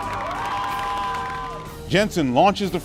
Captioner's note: crowd cheers